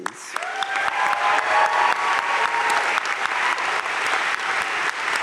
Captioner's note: crowd cheering and applauding